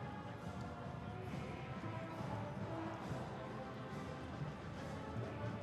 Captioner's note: crowd chanting